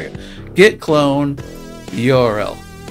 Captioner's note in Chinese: 英语